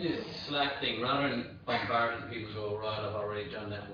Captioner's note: audio distorts